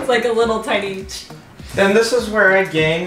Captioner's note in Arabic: يقلد صوت الرش